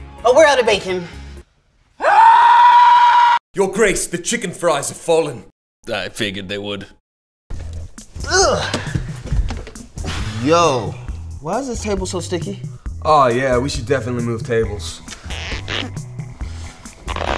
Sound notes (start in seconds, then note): 2.0 screaming profusely; 8.1 grunts; 15.2 chair squeaks